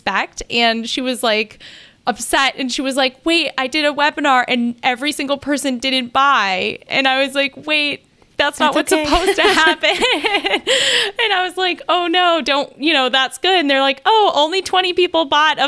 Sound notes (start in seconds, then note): 8.8 both laugh